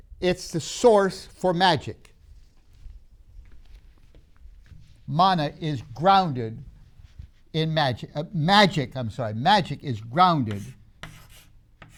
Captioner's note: chalk sounds